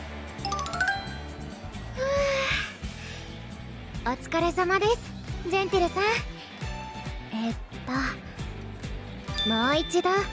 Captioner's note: huff